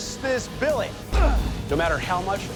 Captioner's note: grunting